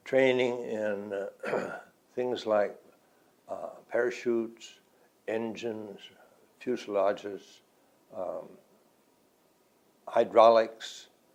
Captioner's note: clears throat